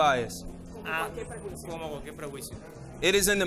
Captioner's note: interpreter speaking in foreign language